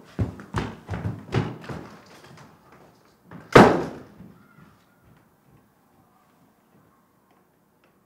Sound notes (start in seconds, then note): 3.5 sound of door closing